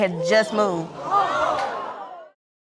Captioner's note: exclaiming